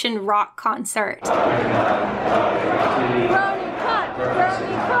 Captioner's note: crowd cheering